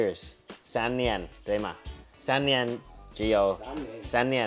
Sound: speaks in foreign language

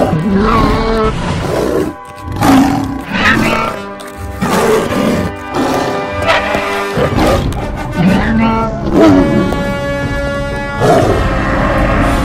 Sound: attack sounds from both

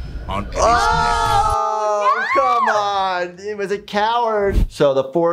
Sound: both shriek

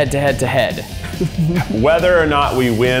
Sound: chuckling quietly

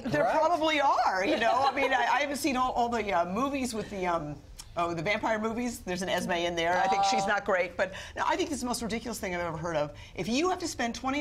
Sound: laughter

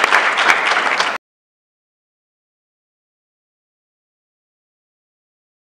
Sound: applause; silence

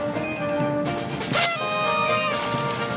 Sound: noisemaker blows

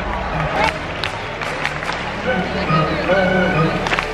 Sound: clapping

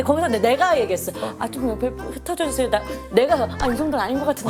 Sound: sob

